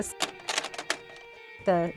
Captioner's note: tape clicks